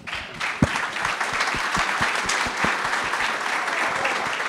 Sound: audience clapping

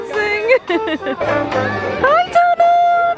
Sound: laughing

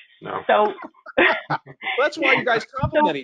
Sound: laughing

